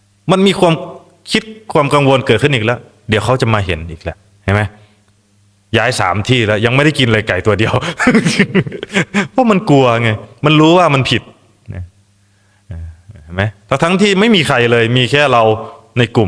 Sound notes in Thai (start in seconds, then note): 7.8 เสียงหัวเราะ